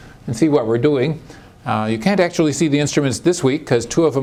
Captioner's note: none